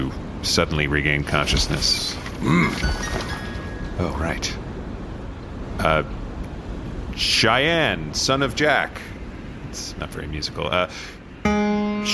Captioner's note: Shai’An grunts and enters